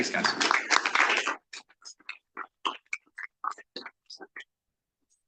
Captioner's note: audience applauding